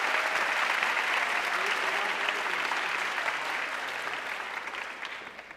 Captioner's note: audience cheering and applauding